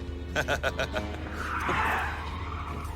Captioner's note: laughs; tires screeching